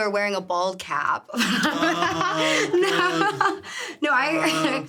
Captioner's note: laughs